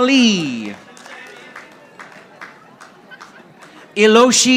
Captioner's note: audience applauding